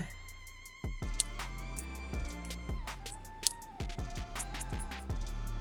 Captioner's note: scissors snipping